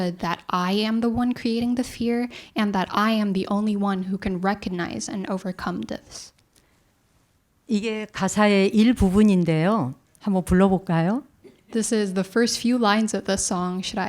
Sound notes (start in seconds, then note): 8.4 speaking in Korean